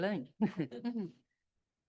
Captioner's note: laughs